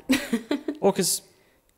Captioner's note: laughing